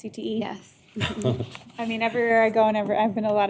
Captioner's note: chuckling